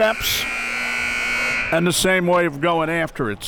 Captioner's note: siren blaring